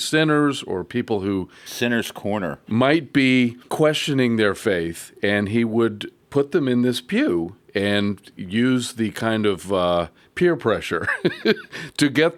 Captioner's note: laughs